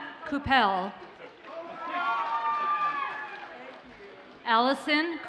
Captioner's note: audience cheers and applauds